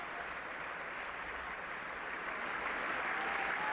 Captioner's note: cheering and applause